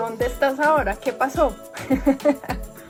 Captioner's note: laughs